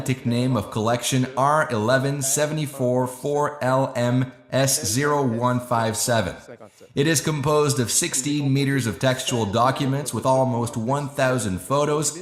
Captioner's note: laughs